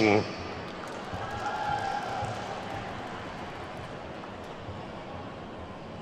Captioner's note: attendees whooping and clapping